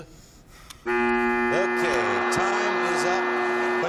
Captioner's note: buzzing